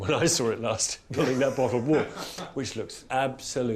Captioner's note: laughing